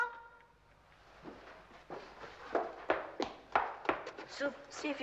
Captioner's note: footsteps approaching